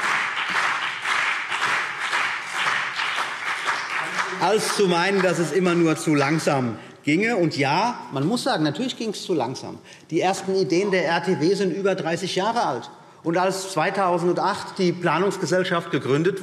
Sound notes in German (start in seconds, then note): 4.6 Beifall CDU und BÜNDNIS 90/DIE GRÜNEN